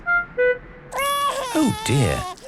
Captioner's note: crying